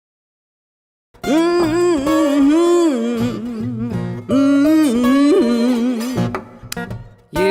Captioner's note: guitar strings; woman humming